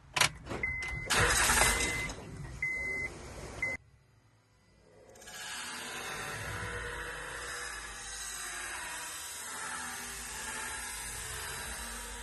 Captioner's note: music, engine cranks, balancer spins, and bolt get loosened